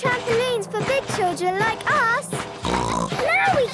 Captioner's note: snorts